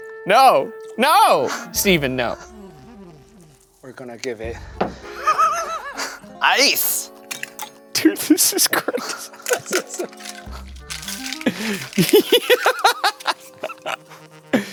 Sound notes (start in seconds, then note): 4.9 laughing; 11.0 laughing